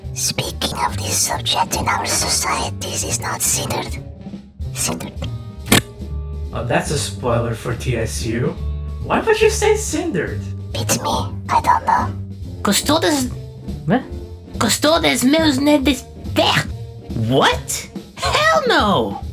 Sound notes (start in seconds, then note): 5.7 Yúlia blows a raspberry; 12.5 Beth failing to speak Latin